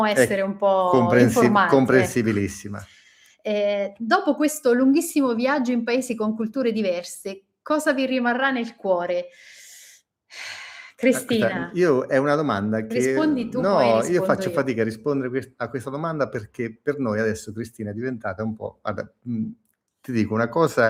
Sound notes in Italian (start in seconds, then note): 9.5 sospiri; 10.1 suono gutturale